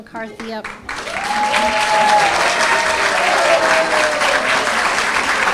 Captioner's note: cheering and applause